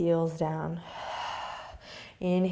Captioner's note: exhaling